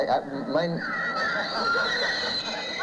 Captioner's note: laughter